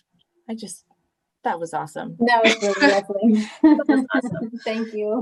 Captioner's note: laughter